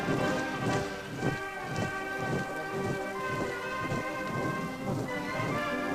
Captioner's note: applause